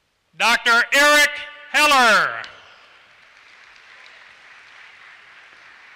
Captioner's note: applause